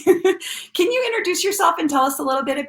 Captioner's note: laughs